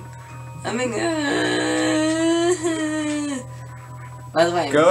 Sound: moans

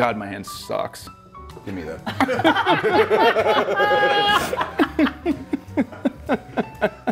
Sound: laugh; laugh

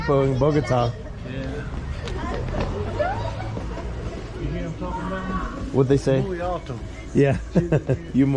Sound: people speaking in spanish

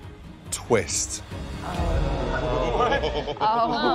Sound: murmuring

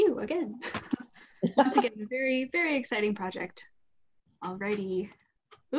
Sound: laugh

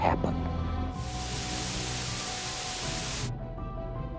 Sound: electric buzzing

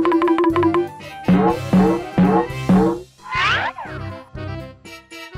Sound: xylophone sound effects; boinging sound effect

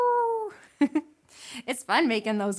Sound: chuckles

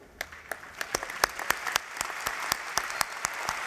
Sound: applause

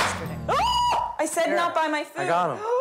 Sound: screams

